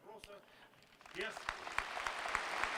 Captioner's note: applause